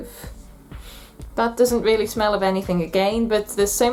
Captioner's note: sniff